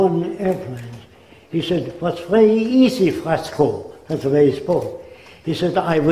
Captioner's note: German accent